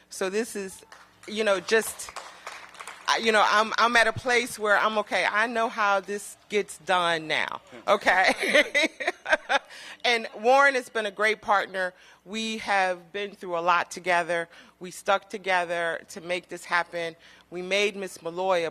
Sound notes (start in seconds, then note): 1.8 applause; 8.2 laughter